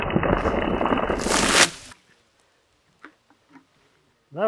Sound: water splashing

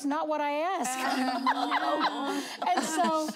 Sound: laughing

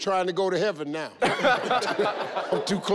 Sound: everyone laughs

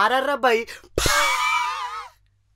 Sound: laugh

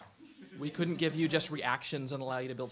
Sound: audience laughs

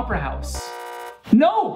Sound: buzzer

